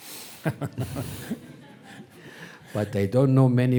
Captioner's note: audience laughing